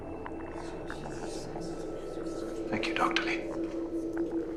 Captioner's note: audience murmuring